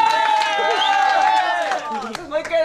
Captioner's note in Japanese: フゥ…ピィッ： の指笛の音